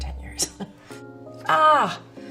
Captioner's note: laughs